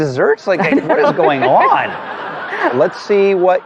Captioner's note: laughter